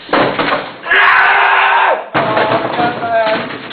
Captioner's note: yelling